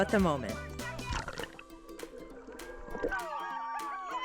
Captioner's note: water splashes; group cheering